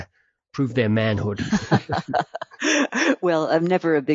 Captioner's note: laughing